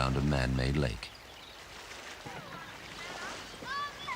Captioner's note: water splashing